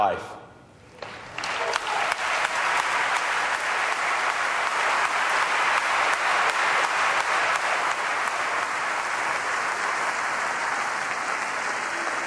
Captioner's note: applause